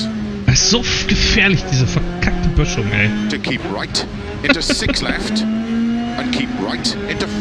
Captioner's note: laughs